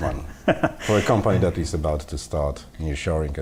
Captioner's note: laughs